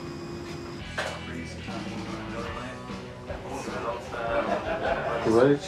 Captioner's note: lively music; patrons chattering